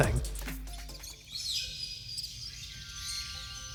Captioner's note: birds chirp